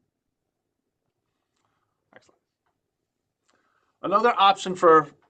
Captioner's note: silence